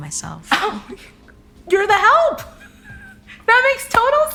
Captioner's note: laughing